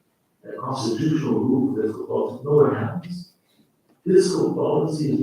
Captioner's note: faintly speaking